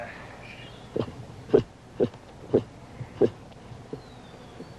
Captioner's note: baboon chattering